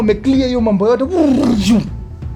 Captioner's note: clearing sound